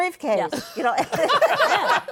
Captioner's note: laughter